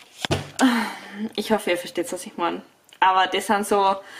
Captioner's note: sighs